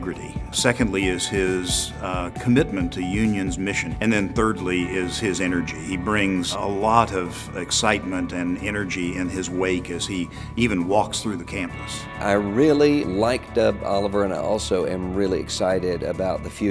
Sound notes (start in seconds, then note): 11.7 voiceover